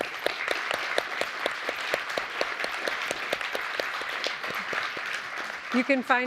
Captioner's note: applause